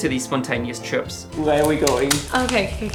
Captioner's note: rustling